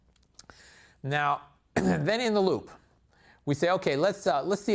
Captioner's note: cough